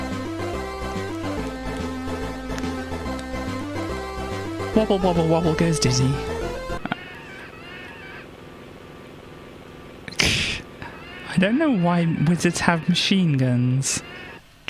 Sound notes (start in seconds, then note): 7.2 screams and machine gun fire